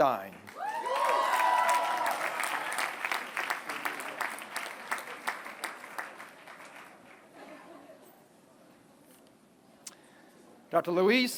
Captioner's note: applause